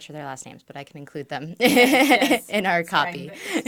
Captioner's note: laughs